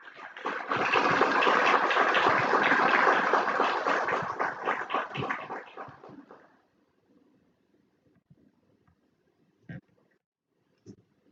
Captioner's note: applause